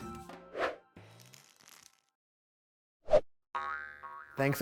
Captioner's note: screen whooshing